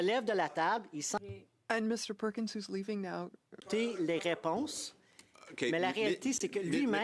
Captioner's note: speaking French